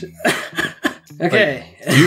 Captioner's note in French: rigole